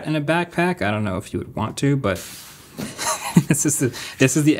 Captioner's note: laughs